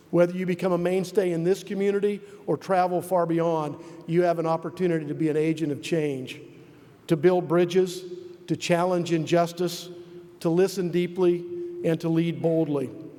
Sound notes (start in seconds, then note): none